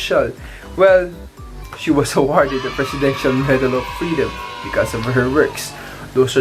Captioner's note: applauds